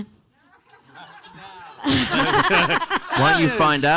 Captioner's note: panelists laughing; audience laughing